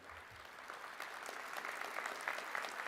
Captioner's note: applause